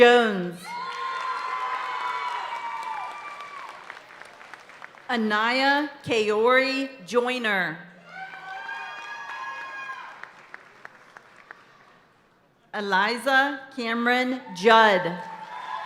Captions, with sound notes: (audience cheering and applauding continues) Anaya Kayori Joiner. Eliza Cameron Judd.